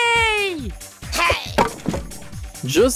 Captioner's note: impact